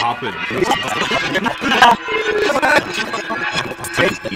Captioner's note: tape rewinding